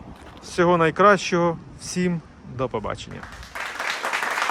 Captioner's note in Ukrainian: оплески